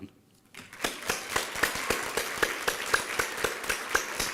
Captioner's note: applause